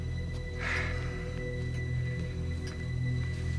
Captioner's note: sighs